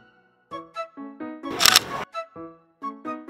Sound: snap

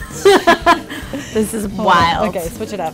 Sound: laughing; murmurs

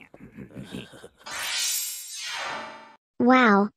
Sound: both laughing; teleportation noises

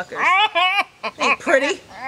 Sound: laughs

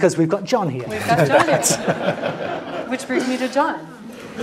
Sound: laugh

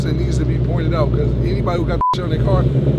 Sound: beeps

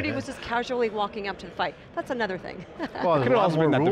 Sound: laughing

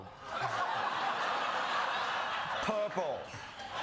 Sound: audience laughing

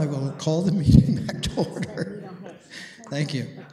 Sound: laughs

